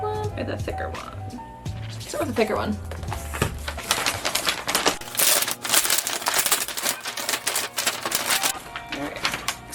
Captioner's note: more paper and plastic noises